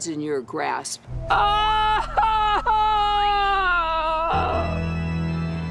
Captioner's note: wailing dramatically